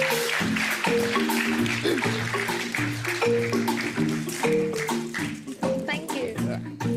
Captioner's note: audience aplauds